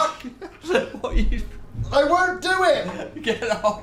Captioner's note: laughing